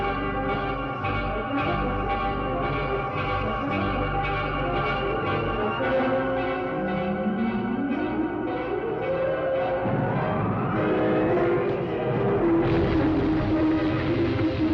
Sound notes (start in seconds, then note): 11.6 rumbling